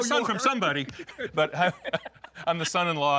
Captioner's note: laughing